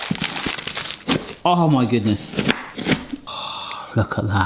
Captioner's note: knife thudding